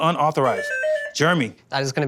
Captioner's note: beeping